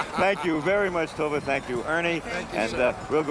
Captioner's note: laughs